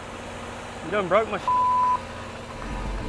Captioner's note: beep; light dramatic music